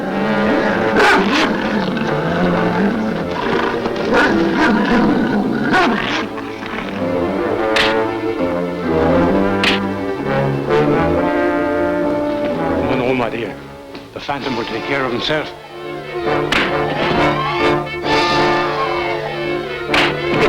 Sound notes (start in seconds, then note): 0.0 Devil barks; 0.0 devil growls; 0.3 ominous orchestral music; 7.7 fists thud; 16.2 desperate orchestral music; 16.4 fist thuds